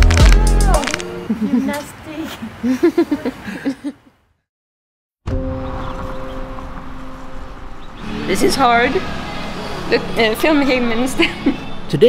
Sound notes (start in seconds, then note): 2.4 laughs